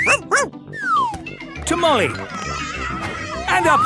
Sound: shouting

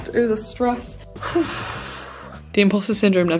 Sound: exhaling

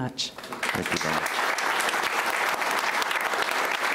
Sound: applauding

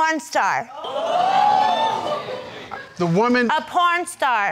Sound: crowd gasping

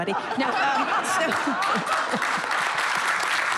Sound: applause

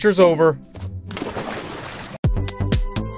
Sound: lava splashes; upbeat chill music

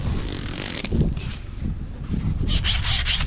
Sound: zip closing; wind blowing

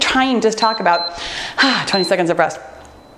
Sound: timer beeps

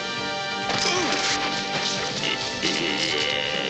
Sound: growling

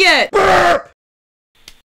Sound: burp

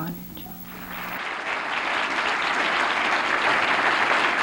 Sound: applause

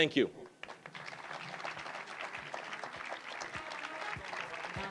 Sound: applause; brassy jazz music

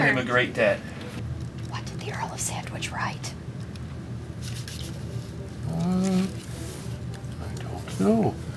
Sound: whispers

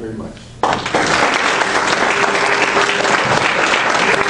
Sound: audience applauds

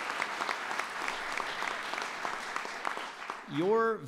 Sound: applause

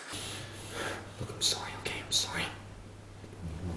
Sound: whispering

